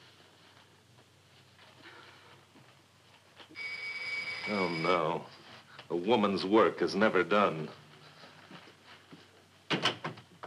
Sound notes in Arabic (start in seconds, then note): 3.5 رنين جرس الباب